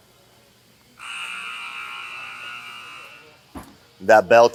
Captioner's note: buzzing sound